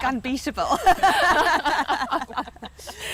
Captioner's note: laughter